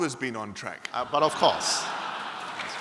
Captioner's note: laughter and applause; laughter